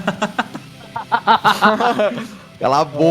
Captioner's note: laughs